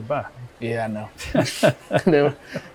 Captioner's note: both laughing